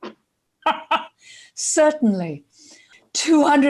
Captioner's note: laughs